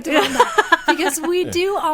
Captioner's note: laughing